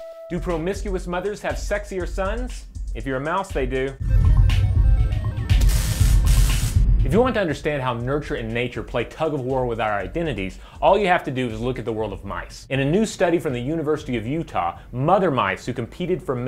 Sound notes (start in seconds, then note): 4.0 digital chimes; 5.6 static